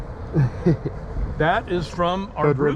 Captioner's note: chuckling